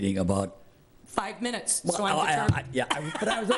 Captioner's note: laughs